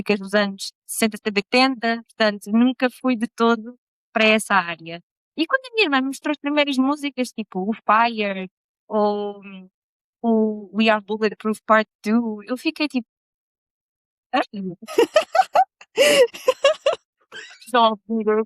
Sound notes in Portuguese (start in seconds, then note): 14.8 risadas